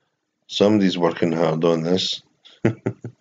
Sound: laughs

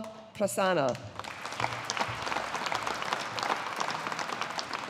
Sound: audience applauding

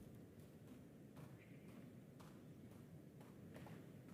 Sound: footsteps plodding

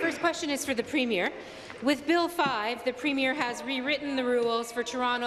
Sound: some Applause

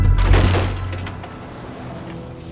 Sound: bells chiming

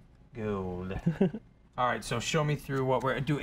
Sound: laughs

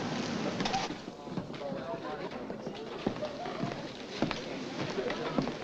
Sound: crowd chattering

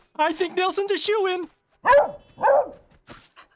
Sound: barking

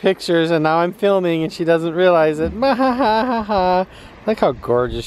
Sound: laughs

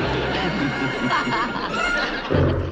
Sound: laughing

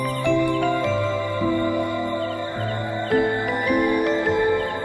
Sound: bells ringing

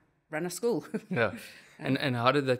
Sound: laugh

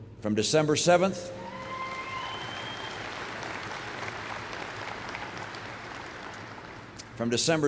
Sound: applause

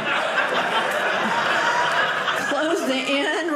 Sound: audience laughing

